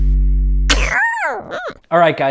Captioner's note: cat meows